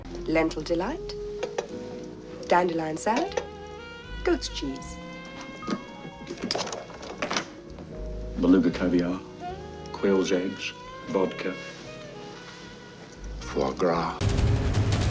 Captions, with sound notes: Lentil delight, dandelion salad... goat's cheese. [Click, whoosh, click] Beluga caviar, quail's eggs, vodka... foie gras...